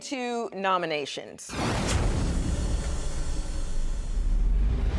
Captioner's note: suspenseful swoosh